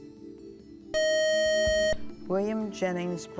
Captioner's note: buzzer